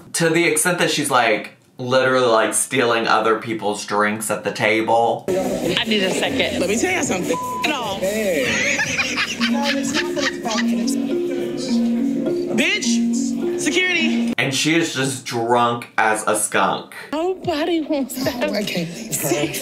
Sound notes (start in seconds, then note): 7.3 beep tone; 8.1 laughing